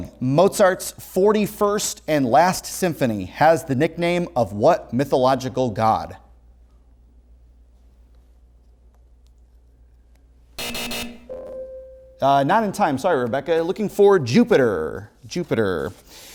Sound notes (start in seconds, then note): 10.6 heavy buzzing; 10.6 ringing